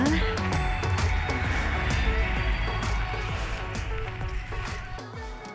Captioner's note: traffic